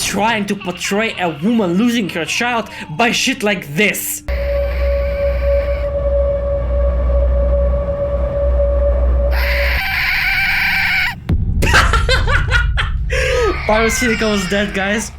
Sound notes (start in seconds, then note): 11.6 laughter